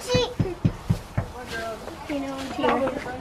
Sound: knock on door

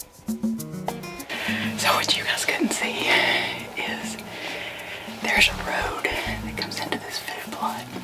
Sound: whispering

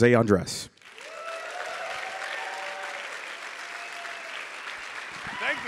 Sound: audience applauding

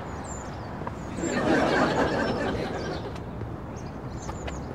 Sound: audience laughs

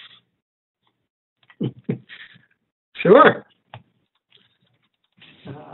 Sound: laughter

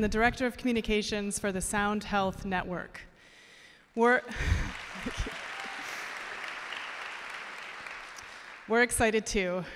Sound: applause

